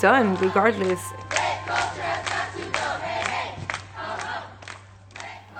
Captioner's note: chanting